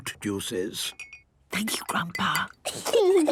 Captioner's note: Granny whispering; children giggling